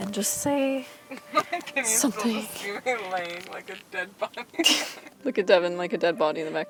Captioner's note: laughs